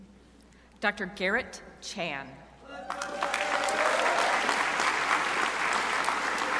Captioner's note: crowd applauding